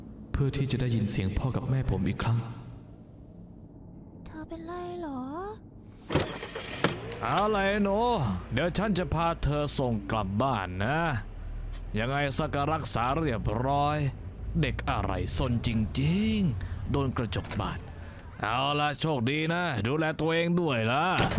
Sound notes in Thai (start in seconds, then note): 4.2 เสียงเด็กผู้หญิง